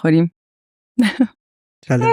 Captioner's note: laughs